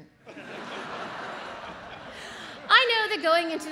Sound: audience laughs

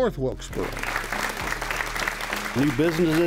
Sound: audience applaud

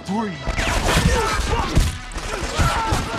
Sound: gunfire

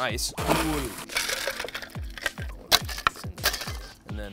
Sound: ice clinking; metallic smashing

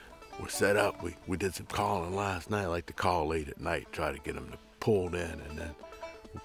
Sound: none

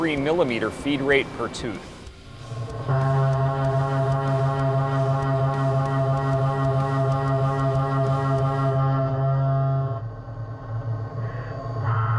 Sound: machining noises

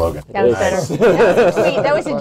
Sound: laughter

